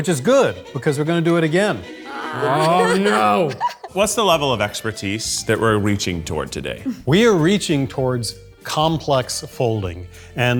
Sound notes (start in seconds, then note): 2.0 laughs